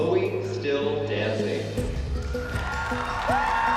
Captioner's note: audience cheering